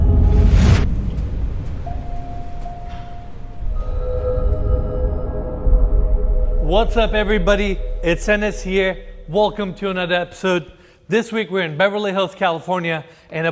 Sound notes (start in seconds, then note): 1.2 elevator bell dinging